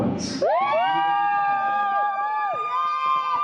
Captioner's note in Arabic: الحشد يهتف